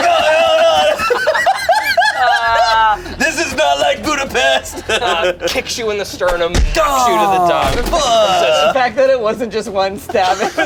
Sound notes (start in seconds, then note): 0.0 laughs